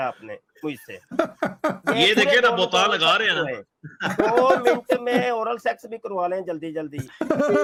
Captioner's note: Ketawa